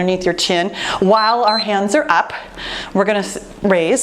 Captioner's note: timer beeps